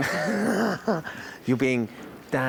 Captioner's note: chuckles